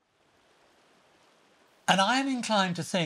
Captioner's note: water rushing